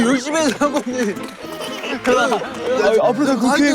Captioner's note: applause